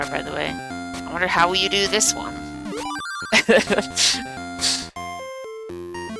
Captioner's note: laughs